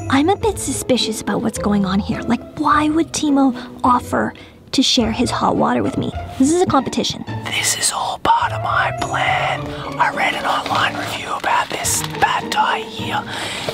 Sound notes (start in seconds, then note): 0.0 whispering; 7.6 whispering